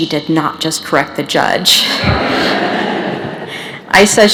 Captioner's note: laughter